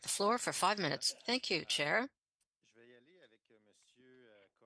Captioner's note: speaking French